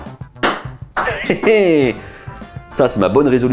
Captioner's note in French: rire